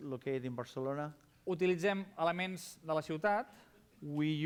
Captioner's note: non-english speech